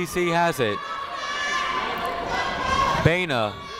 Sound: people shouting in the crowd

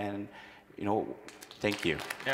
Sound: audience applauds

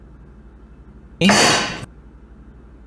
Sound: bottle slam

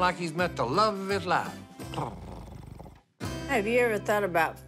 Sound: purring

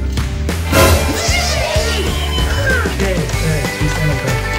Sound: people exclaiming

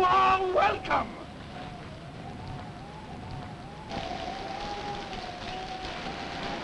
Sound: rain pattering; wind howling

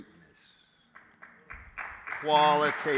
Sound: applause

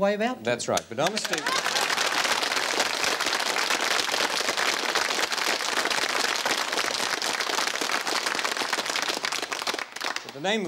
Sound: applause

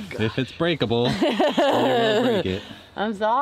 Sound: laughs

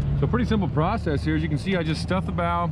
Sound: boat engine running

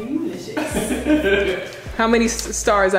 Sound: laughing

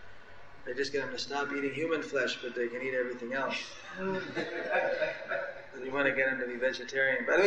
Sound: laughter

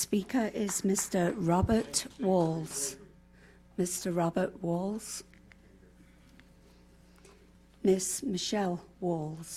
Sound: applause

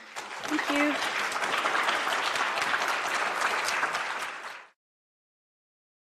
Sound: applause

